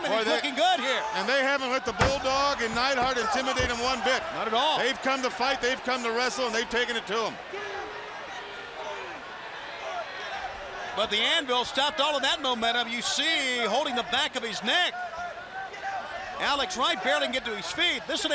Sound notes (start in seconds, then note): 8.3 crowd chatter